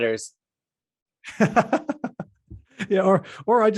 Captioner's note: laughs